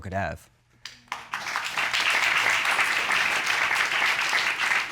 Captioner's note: audience applauds